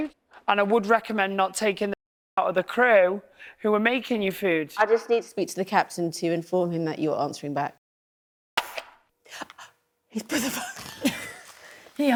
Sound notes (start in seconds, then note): 9.1 gasps; 10.2 laughs